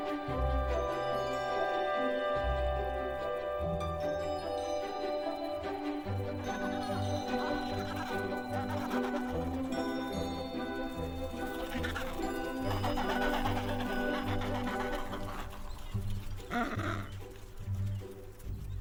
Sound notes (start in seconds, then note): 7.4 bleating